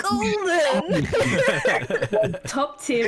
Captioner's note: all agreeing laughter